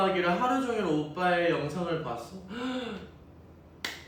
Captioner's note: gasps